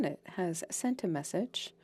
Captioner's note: speaking French